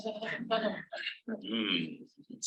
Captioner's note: audience laughing